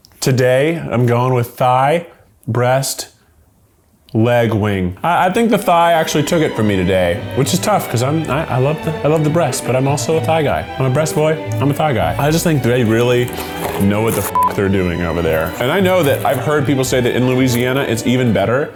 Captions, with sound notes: Today I'm going with thigh, breast, leg, wing. I think the thigh actually took it for me today, which is tough, 'cause I, I love the breast but I'm also a thigh guy. I'm a breast boy, I'm a thigh guy. I just think they really know what the (beep) they're doing over there. And I know that I've heard people say that in Louisiana it's even better.